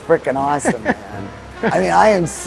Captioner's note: chuckling